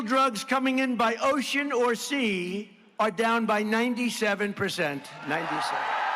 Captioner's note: applause